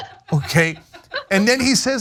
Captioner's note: laugh